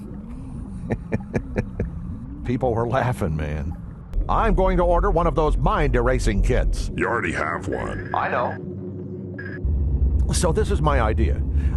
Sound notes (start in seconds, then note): 0.8 chuckles